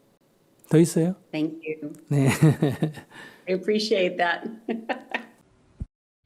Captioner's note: questioner Laughter